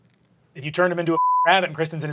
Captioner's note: beeping